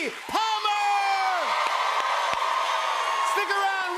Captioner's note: cheers and applause